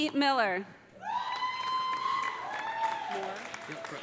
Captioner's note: audience cheering; audience applauding